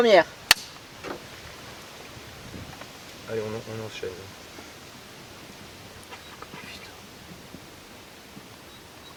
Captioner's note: mouth noise